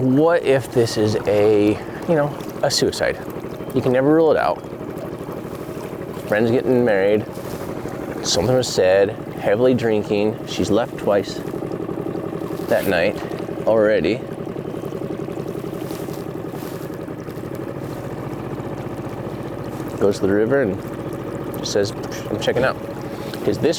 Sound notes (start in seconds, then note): 14.1 motor trolling